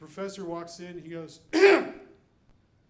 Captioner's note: clears throat